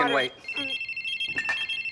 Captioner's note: phone ringing